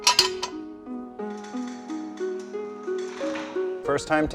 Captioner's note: metal clanking; soft music